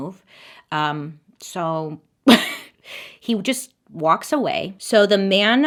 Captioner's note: laughs